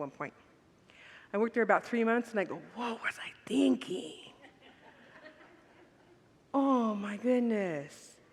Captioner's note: congregants laugh